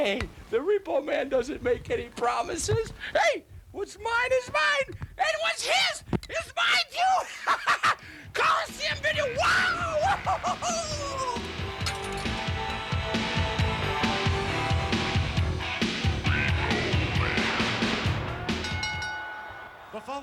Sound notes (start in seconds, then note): 7.1 laughs; 11.6 synth rock music plays; 18.5 bell rings